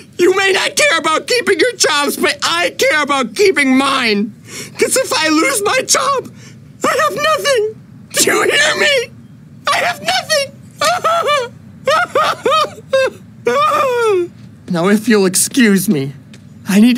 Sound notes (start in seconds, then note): 9.6 sobbing